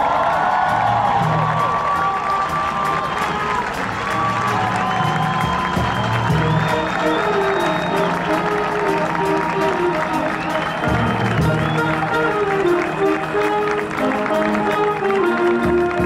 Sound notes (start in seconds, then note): 0.1 applause; 3.2 audience cheering